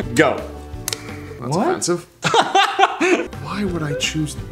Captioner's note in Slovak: smiech